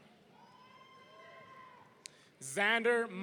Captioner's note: audience cheering